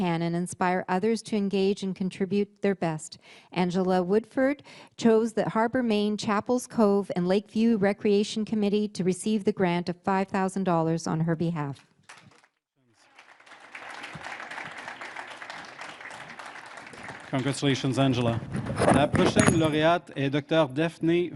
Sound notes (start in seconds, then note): 12.9 applause; 21.1 speaking French